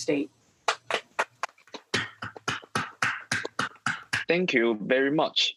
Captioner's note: students applauding